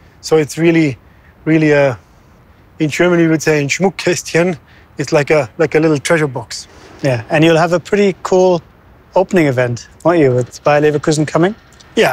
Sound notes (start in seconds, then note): 3.8 speaks in German language